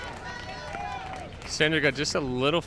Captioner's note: crowd cheers